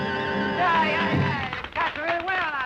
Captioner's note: crowd clapping